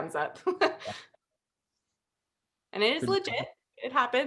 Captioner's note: laughter